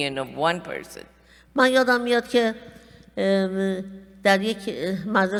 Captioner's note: speaking persian